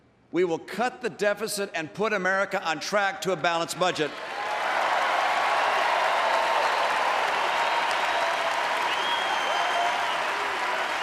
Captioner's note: applause